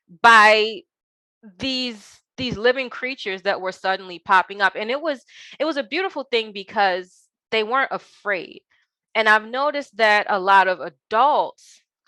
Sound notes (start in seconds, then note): none